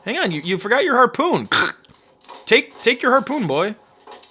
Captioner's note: cracking